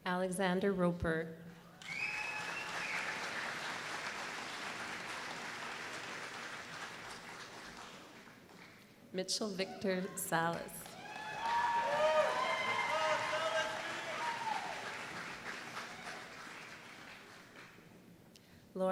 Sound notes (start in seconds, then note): 1.8 applause; 10.5 applause